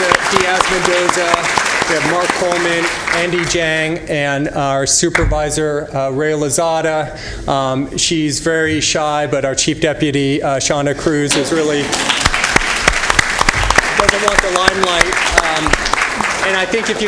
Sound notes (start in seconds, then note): 6.0 applause; 11.5 applause